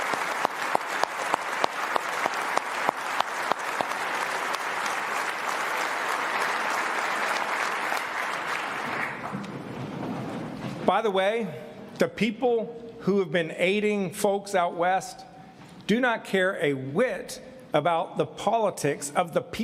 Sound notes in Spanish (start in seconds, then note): 5.3 aplausos